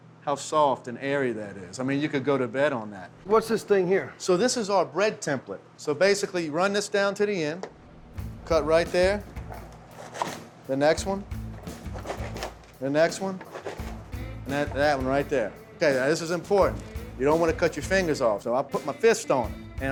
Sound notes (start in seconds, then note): 9.7 chopping; 12.0 chopping; 15.4 chopping